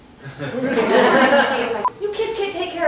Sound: laughter

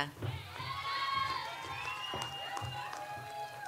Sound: audience applauds

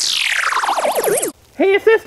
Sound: buzz

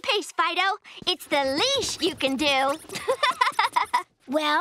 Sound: laughing

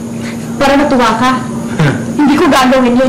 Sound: chuckles

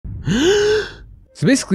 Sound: deep Breath

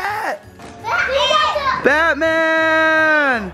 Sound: boys shout

